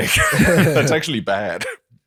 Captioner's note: laughter